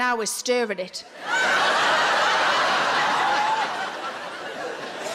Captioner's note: audience laughs